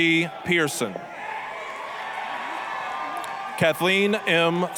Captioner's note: applause, cheering